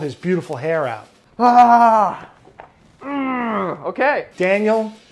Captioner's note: groans